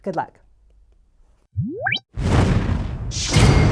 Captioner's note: whooshing sounds